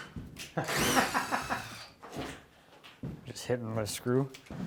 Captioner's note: laughing